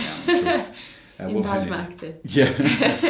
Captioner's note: laughs